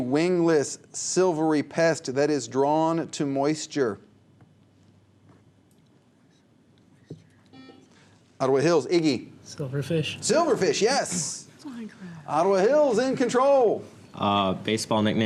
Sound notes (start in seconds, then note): 5.6 whispers; 7.5 buzzer